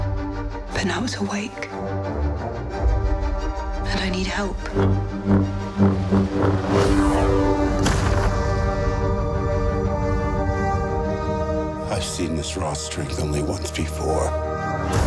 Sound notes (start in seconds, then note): 4.6 lightsaber humming; 7.5 rumbling